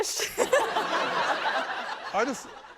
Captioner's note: laughter